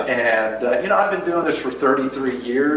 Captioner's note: none